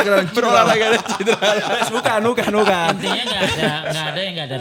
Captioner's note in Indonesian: tertawa